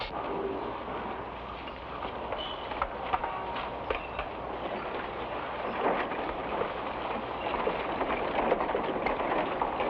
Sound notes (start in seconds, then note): 2.6 carriage rumbles